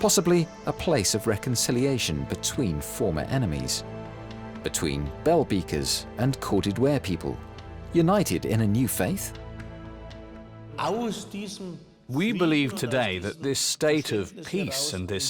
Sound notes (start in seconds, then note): 10.9 speaking German